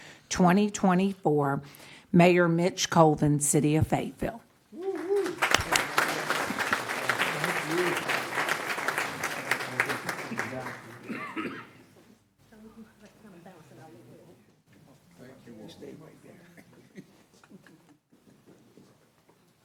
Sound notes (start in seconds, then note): 7.4 applause